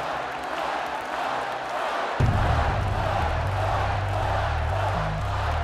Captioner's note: chanting; chant continues